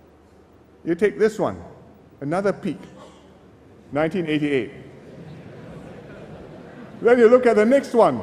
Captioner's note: laughter